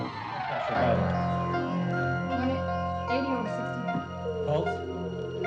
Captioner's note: murmuring